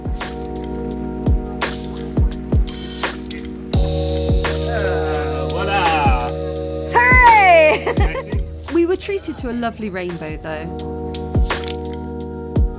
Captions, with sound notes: [chill music] - Ah, voila. [cheering and laughing] We were treated to a lovely rainbow, though.